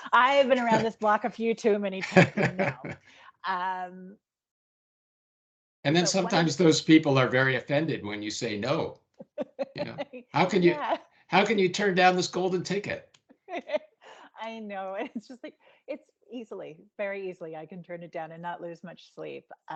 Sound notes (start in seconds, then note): 9.3 laughing; 14.9 giggling